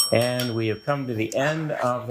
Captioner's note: bell ringing